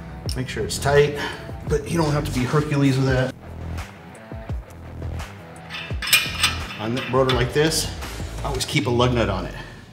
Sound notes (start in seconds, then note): 5.6 lug nuts spinning